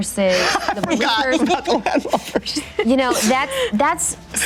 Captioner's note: laughing